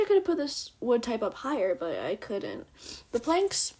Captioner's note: sniff